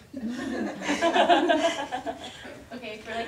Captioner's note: audience laughter